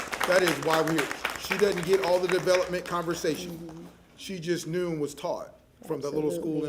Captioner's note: applause